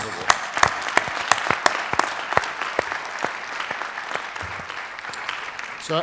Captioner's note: applause